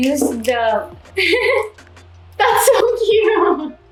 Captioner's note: laughing